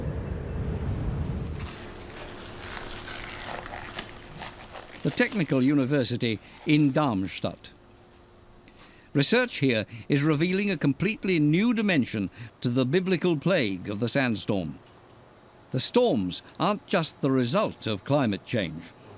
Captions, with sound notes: [gloves squeaking] The Technical University in Darmstadt. Research here is revealing a completely new dimension to the Biblical plague of the sandstorm. The storms aren't just the result of climate change.